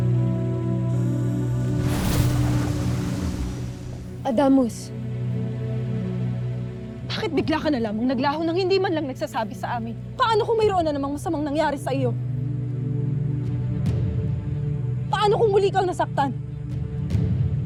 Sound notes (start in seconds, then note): 0.0 ethereal music playing; 1.6 sparkling whoosh, energy swirling